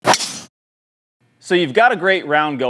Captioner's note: ball cracking